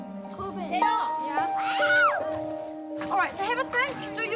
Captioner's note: children exclaim, shriek